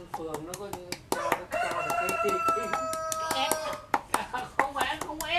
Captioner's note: laugh